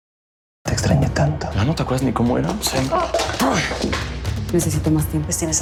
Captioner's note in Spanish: Estruendo